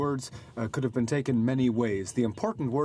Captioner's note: speaking French